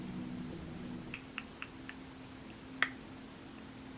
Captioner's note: clicks tongue rhythmically